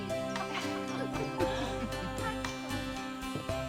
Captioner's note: laughs